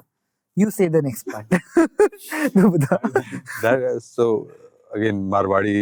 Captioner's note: chuckling